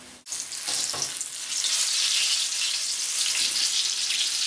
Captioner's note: oil sizzling